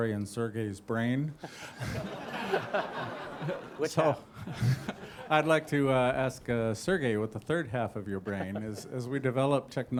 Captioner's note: laughter